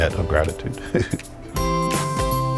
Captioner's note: laughs; upbeat music continues